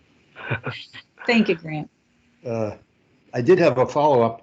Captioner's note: chuckles